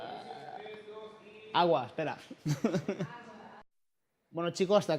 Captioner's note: laughs